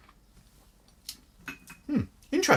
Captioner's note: smacks lips